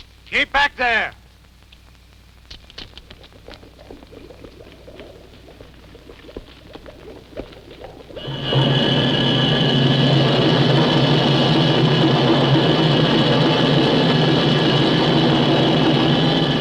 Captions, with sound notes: Keep back there! (bubbling) (menacing music)